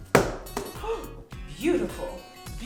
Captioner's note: gasps